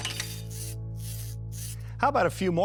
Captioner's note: robots whirring